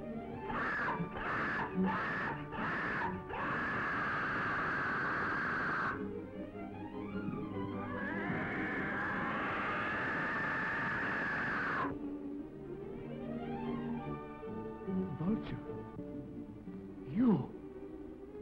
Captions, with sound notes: (bird screeching) - The vulture, you.